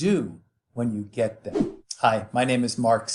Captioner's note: air whoosh